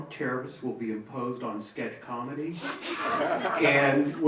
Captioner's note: audience member chuckling